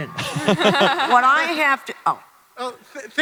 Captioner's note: Hardwick et al laugh